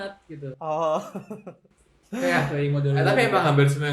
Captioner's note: laughter